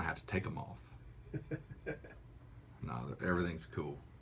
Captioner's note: laughter